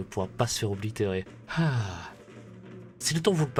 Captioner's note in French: soupir de soulagement